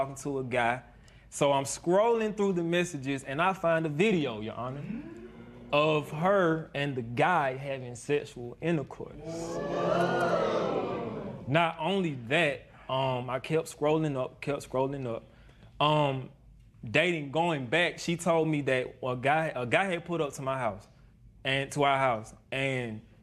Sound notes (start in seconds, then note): 9.2 spectators murmur